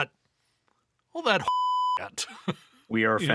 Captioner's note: beep